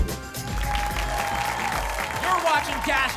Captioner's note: applause and cheering